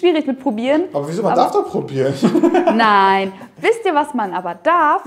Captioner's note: laughing